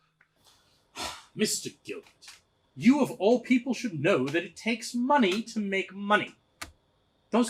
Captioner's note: sigh